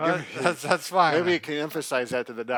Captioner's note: laughing